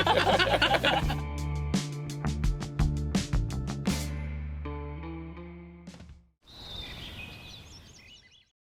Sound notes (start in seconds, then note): 6.5 birds chirping